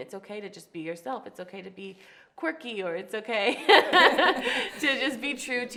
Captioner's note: laughs